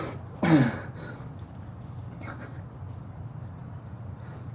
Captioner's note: Miles groans